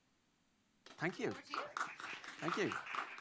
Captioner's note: applause